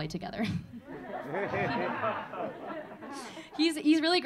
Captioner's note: audience laughing